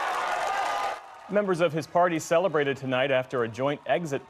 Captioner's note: cheers and applause